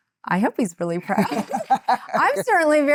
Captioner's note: laughing